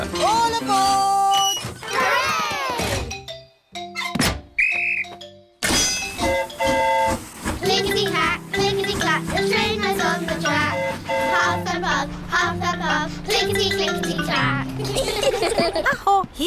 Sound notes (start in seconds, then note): 4.5 train horn toots; 4.5 blows whistle; 14.7 all giggle